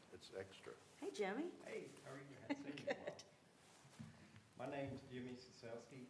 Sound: laughter

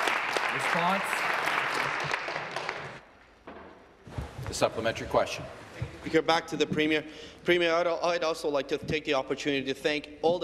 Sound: applause

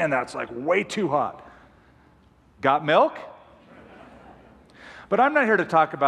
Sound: laughter

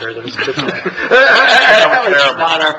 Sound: laughing

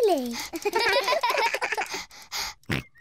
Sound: all laugh; george panting, snorts

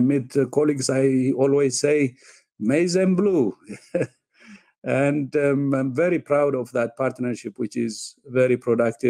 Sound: chuckle

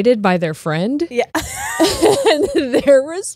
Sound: laughs

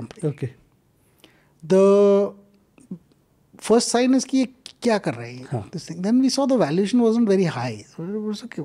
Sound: speaks in Hindi

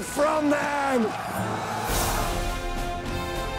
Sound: battle sounds

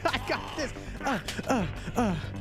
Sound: grunting

